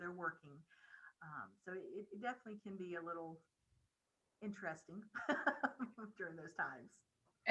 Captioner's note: laughing